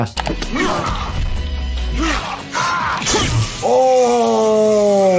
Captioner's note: grunting, cutting and slashing